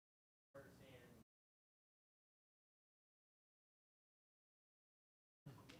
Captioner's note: speaking faintly